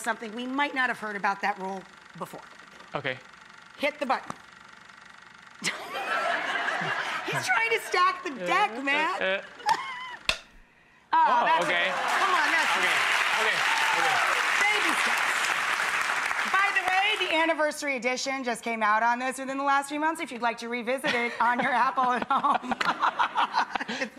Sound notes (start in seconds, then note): 5.6 audience laughter; 10.3 click; 11.5 applause